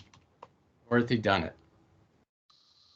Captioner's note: typing sound